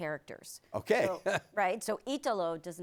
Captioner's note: laughs